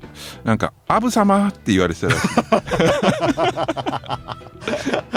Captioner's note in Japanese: 笑い